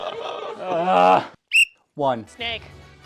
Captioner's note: whistle